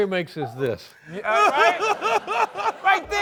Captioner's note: laughter